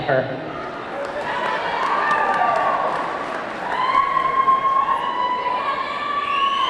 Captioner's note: audience clapping; audience cheering